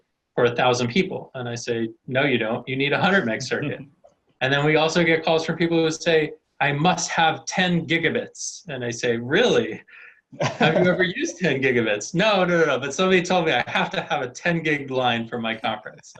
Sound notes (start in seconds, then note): 2.9 laughing; 10.4 laughing